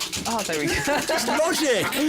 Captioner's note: chuckles